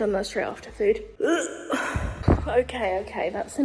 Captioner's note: gags